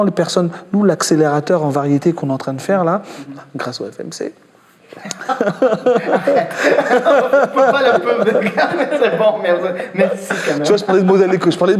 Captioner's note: laughs